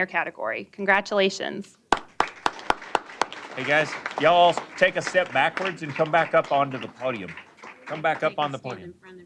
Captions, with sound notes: CATEGORY. CONGRATULATIONS. >> [ APPLAUSE ]. >> HEY, GUYS, Y'ALL ALL TAKE A STEP BACKWARDS AND COME BACK UP ON TO THE PODIUM. COME BACK UP ON THE PODIUM.